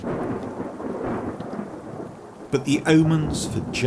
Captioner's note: thunder rumbles